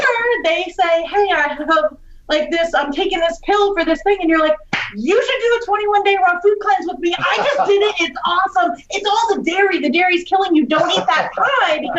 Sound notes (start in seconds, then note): 4.7 claps